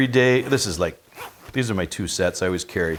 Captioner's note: zipping